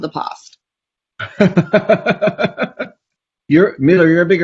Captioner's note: laughs